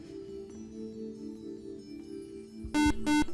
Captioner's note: buzzer